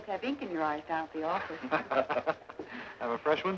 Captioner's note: men laugh